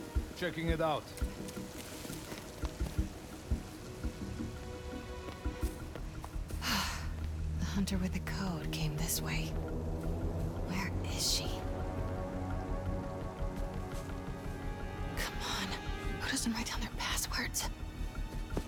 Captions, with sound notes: Checking it out. (exhale) The Hunter with the code came this way. Where is she? Come on.. who doesn’t write down their passwords?